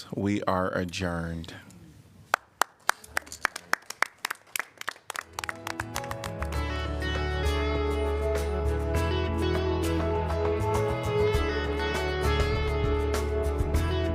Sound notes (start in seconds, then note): 2.3 applause